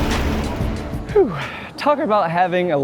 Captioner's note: exhales